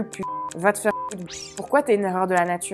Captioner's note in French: bip